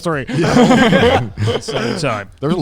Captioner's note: laughing quickly